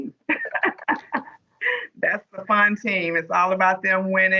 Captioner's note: laughs